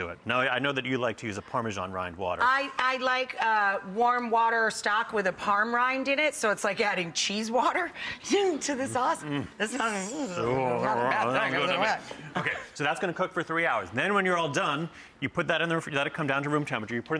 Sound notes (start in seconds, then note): 7.9 giggles; 9.0 both mumbling